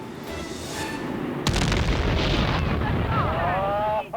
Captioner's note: dynamite explodes; crowd chattering